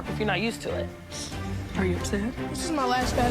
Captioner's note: sniffles